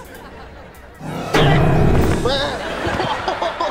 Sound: groaning; laughing

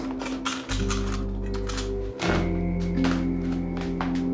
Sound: camera clicks

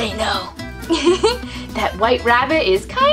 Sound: giggles

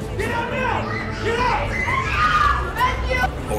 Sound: kid screaming

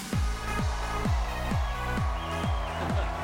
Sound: audience cheering; laughs

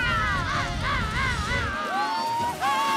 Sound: screaming

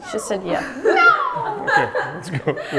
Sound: imitating cat

